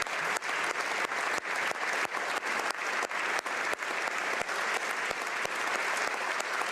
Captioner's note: applause